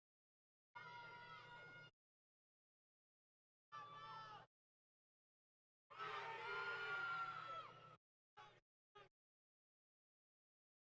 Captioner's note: crowd Yelling Intermittently